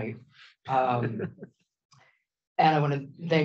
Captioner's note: laughs